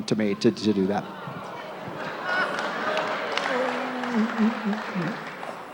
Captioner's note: crowd discontent